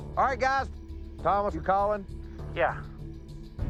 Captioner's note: over walkie